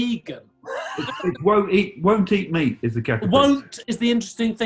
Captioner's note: sniggering